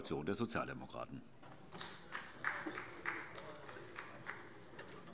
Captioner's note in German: Beifall